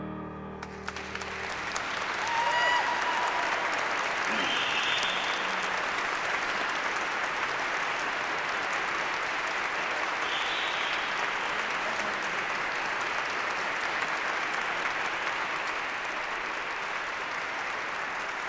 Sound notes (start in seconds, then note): 0.8 applause